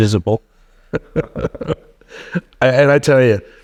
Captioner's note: laughing